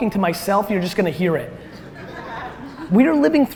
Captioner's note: audience laughter